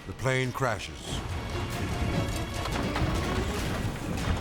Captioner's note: plane rumbling